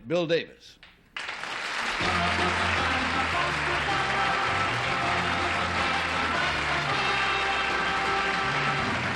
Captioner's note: applause